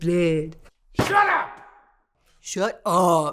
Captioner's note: fist pounds